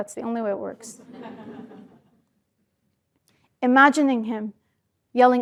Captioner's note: laugh